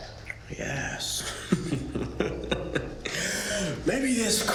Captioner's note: Ben laughing